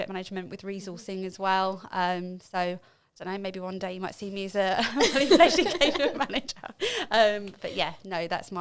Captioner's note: laughing